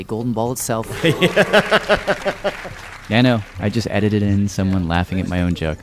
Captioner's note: laughs